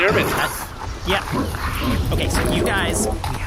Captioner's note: sound of tornadas snarling